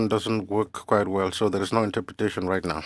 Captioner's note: speaking french